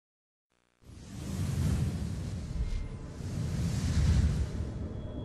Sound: digital whooshing sounds

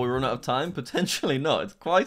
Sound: chuckles

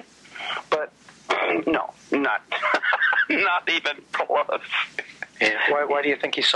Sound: laughs

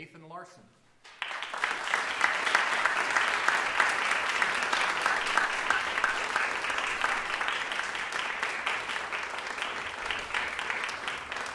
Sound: applause

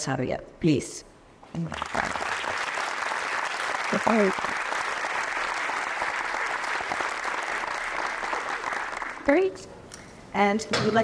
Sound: applause

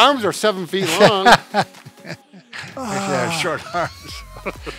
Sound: laughter

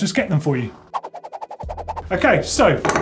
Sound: air rushing

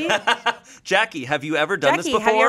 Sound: laughs

